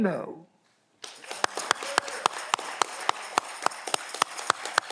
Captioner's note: audience clapping